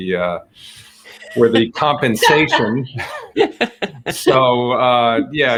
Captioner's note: all laughing